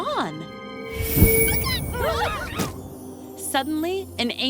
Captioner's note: whoosh